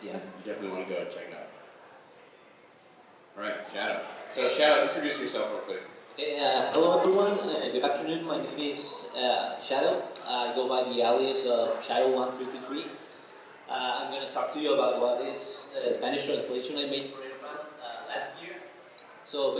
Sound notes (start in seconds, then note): none